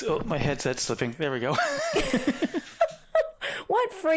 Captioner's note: laughing